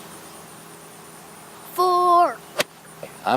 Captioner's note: child's voice